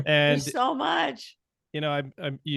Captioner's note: murmurs